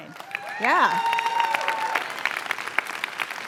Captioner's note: cheers and applause